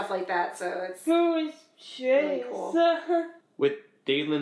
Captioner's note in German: lacht